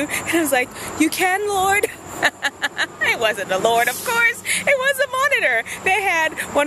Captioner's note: laughs